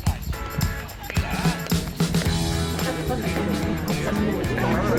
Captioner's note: people chattering